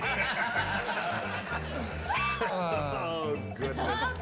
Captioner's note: laughter